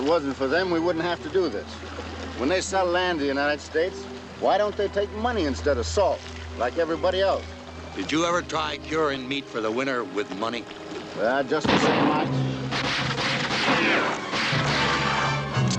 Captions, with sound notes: If it wasn't for them, we wouldn't have to do this. When they sell land to the United States, why don't they take money instead of salt, like everybody else? Did you ever try curin' meat for the winter with money? Ah, just the same...[GUNSHOT] [GUNSHOTS]